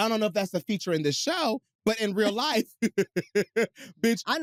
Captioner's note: laughs